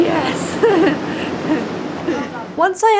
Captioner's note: chuckles